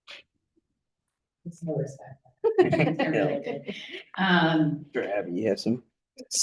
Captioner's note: panelists chattering